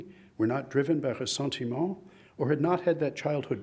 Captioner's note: speaks in foreign language